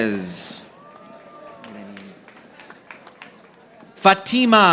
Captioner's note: audience applauding